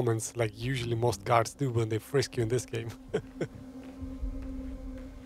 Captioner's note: laughs